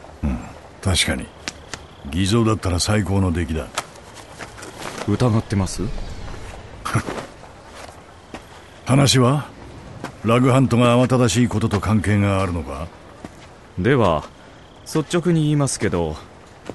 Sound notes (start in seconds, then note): 6.8 Jack scoffs